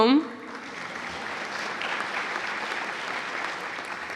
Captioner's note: cheers and applause